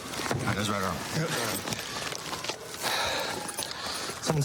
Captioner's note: sirens blaring